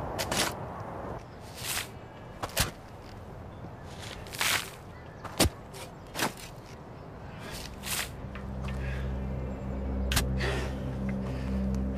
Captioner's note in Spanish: Ruidos al cavar